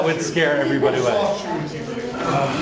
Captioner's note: laughing